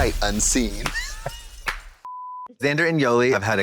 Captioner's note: blonde Women caw and clap